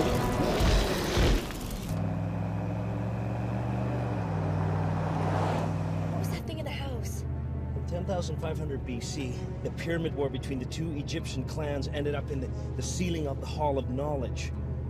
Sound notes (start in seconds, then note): 2.0 engine rumbling